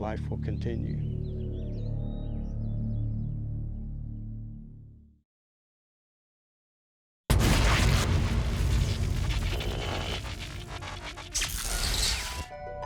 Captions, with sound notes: Even if we disappear, our legacy of life will continue. [buzzing and crackling]